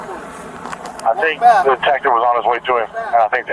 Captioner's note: radio chatter